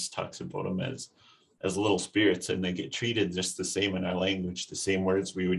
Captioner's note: speaks foreign language